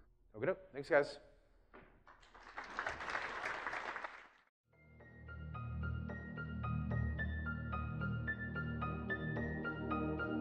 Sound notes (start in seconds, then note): 2.0 applause; 4.7 serene music